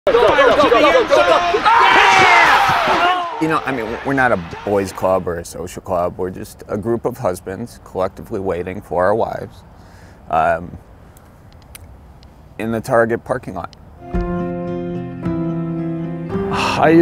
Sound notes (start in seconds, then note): 0.1 crowd murmuring; 2.0 yelling; 14.0 gentle music